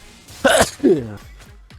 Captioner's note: sneeze